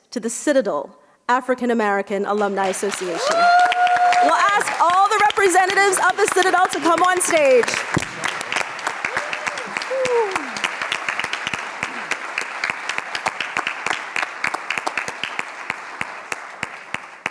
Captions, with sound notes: to the Citadel African American Alumni Association. (audience applauds and cheers) We'll ask all the representatives of the Citadel to come on stage. (audience cheering)